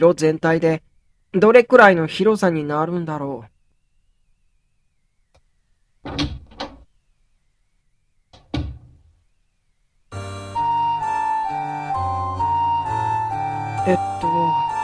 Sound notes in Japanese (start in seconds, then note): 6.0 扉を開く音：ガッチャ･･･; 8.3 扉を閉める音：バタン